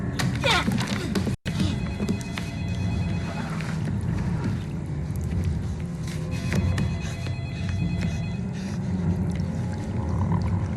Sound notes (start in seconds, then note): 0.2 grunting; 1.7 telephone Ringing